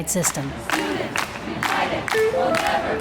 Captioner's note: chanting